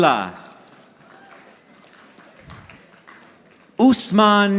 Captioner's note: audience applauding